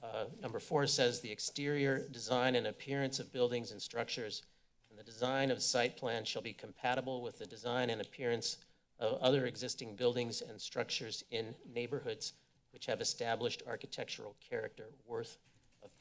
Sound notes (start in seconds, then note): none